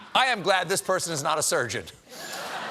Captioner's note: laughter